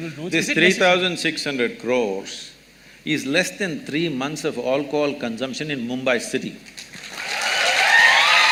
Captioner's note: applause